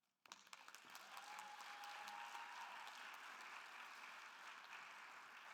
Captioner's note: attendees applauding and cheering